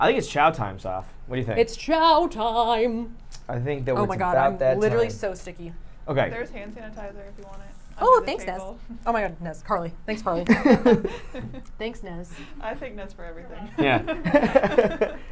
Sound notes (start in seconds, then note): 10.4 laughs